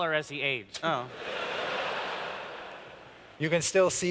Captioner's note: laughter